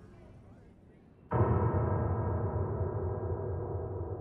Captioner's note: low gong sound